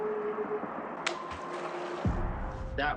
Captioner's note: water splashes